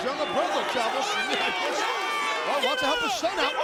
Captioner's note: spectators cheering